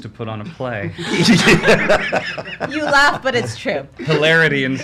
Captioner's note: laughs